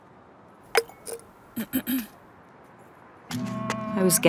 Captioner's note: clears throat